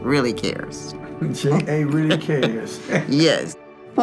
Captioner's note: both laughing